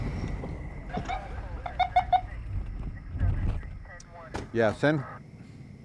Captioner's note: police sirens bleeping